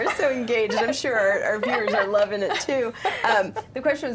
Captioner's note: laughing